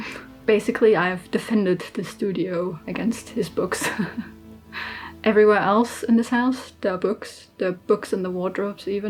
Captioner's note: laughs